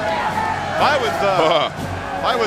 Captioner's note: commentator laughs